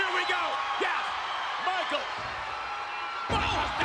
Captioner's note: spectators cheering